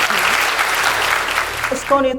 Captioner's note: applause